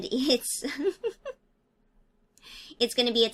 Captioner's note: giggling